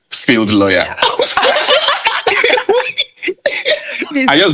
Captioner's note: laughing